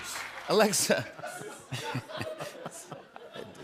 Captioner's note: laughter